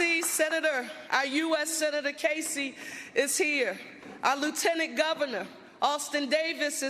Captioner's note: applause